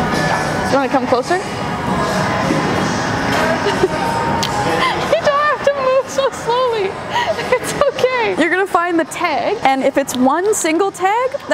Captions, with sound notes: You wanna come closer? (laughs) You don't have to move so slowly. It's okay. You're gonna find the tag, and if it's one single tag,